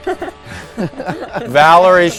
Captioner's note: laughing